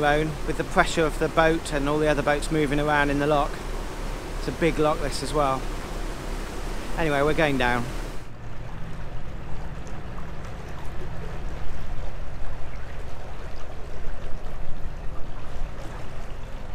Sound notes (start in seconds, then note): 14.4 water noises